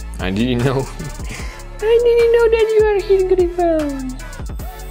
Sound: funny mumbling noises

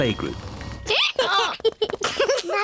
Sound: brays; both giggle

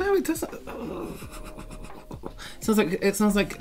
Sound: clearing His Nasal Airways

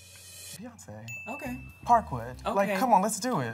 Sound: bell pings

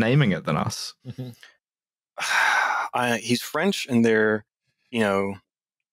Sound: sighs

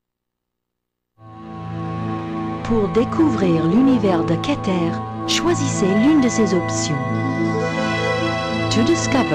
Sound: french

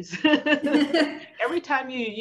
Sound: both laughing

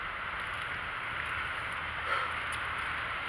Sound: sighs

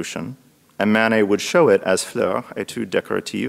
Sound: speaks in foreign language

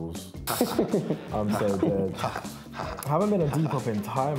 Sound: laughs

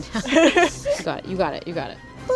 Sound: laughs

